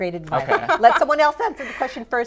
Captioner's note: laughter